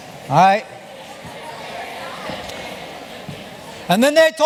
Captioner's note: chatter